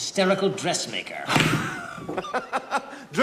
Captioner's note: laughing